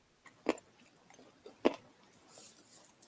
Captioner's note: eating sounds. munch, munch